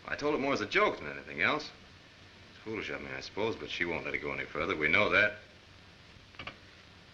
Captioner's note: none